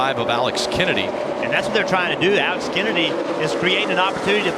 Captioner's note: engine revving